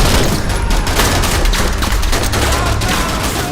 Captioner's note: bullets ricocheting off metal